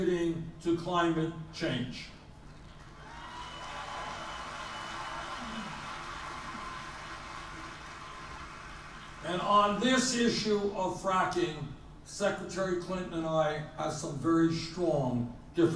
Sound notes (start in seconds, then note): 6.2 more applause and cheering on film clip